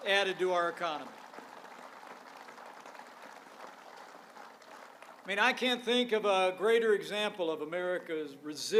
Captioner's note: applause